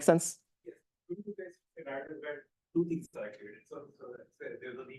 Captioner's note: speaking faintly